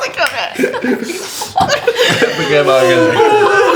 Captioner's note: laughter